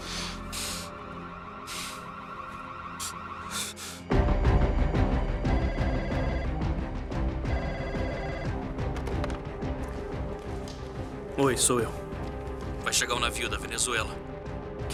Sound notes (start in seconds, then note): 5.4 phone ringing